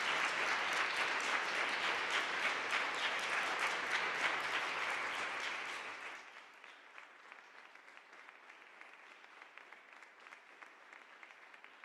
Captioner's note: applause